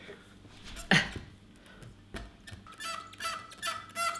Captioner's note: squeaking noise